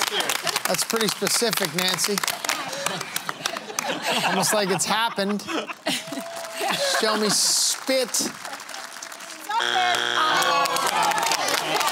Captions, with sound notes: That is pretty specific, Nancy. Almost like it has happened. Show me spit. [Buzzer] [Applause]